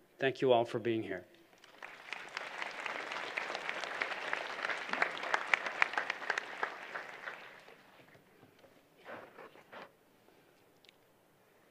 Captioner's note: applause